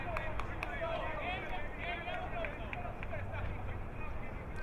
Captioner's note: crowd muttering